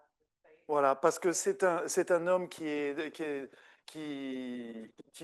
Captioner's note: speaking French